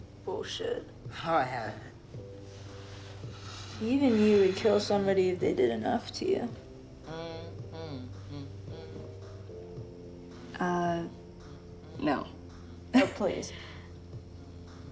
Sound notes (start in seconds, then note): 7.6 french humming